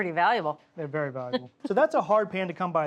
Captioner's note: chuckling